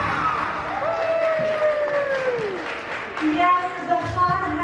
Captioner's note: audience cheers and applauds